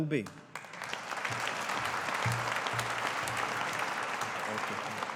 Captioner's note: audience applauding